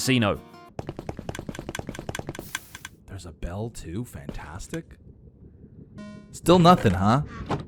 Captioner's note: Redstone noises